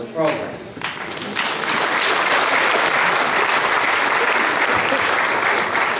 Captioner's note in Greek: Γέλια και χειροκροτήματα στο ακροατήριο